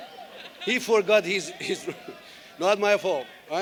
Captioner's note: laughter